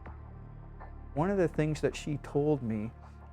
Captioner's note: voiceover